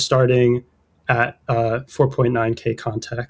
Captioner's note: uh